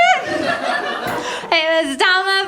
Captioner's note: laughter